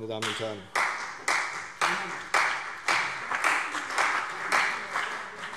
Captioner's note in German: Beifall CDU und BÜNDNIS 90/DIE GRÜNEN